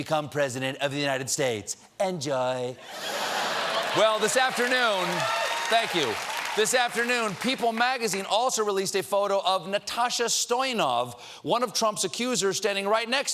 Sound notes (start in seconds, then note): 8.9 applause